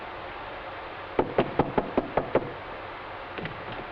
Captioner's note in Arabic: طرق الباب